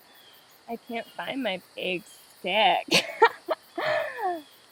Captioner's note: laughs